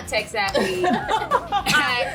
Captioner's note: laughing